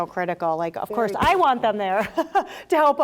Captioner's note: laughs